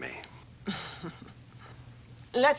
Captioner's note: chuckles